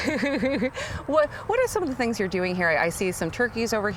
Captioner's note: laughing